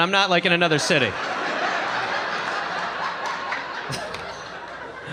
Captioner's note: audience laughing